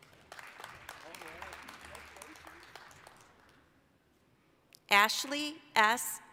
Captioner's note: applause